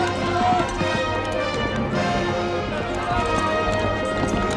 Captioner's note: horse whinnying